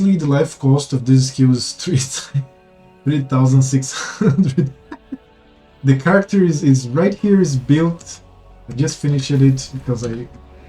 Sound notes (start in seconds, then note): 4.0 giggles